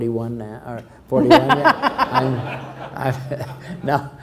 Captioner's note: laughs